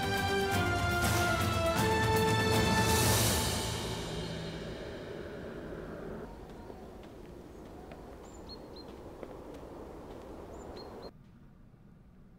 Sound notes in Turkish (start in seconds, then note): 5.9 Kuş cıvıltısı sesi; 12.1 Sessizlik